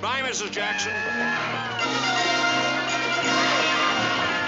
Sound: soldiers whooping

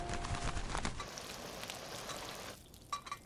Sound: oil bubbling

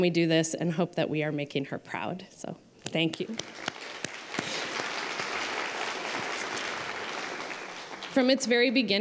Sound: applause

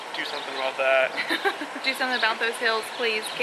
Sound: laughing

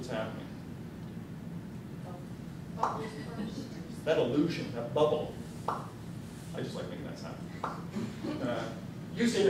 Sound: popping noise

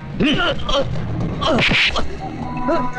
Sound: groaning

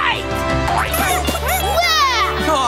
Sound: clucking

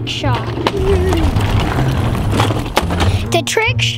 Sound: wheels spinning

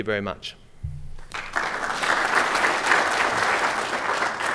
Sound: applause

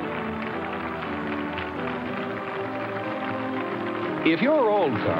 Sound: audience clapping

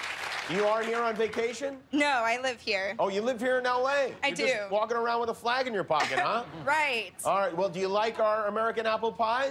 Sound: cheers and applause

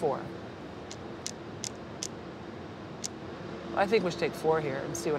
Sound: flags tapping on rail

